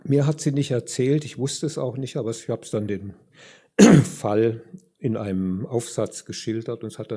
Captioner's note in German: räuspern